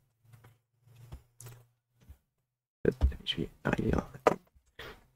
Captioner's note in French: Silence